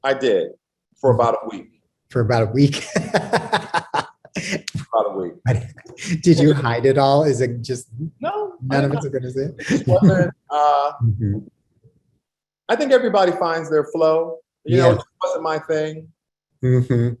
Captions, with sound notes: I did, for about a week. For about a week. [LAUGHS] Probably. Did you hide it all? Is it just-- No. I did not-- It just wasn't-- I think everybody finds their flow. You know, it wasn't my thing.